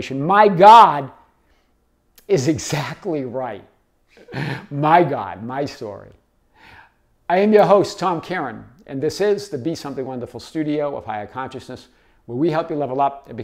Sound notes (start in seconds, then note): 4.2 laughs